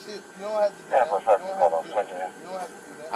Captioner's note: radio chatter